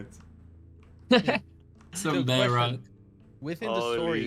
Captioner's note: laughs